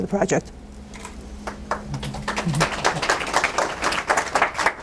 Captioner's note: applause